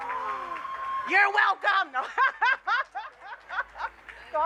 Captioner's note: laughs